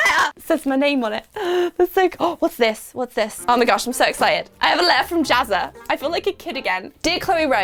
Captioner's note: gasp